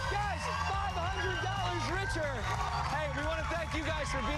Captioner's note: cheers and applause